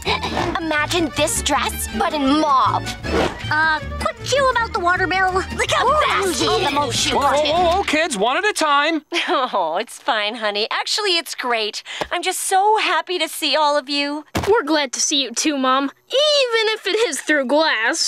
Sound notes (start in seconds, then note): 8.7 chuckles